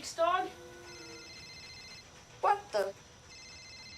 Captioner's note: phone ringing